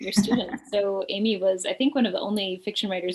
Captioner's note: laughs